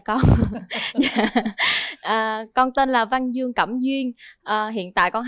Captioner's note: laughter